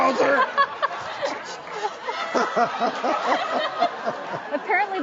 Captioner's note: everybody laughs